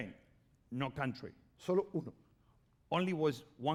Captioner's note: speaking spanish